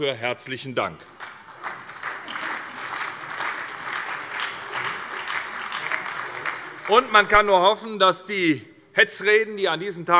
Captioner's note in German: Beifall